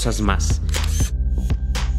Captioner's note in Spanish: Sonido de captura de fotos